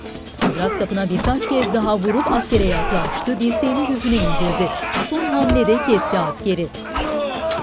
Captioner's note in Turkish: Dövüş sesleri